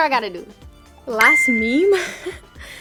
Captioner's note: bell chiming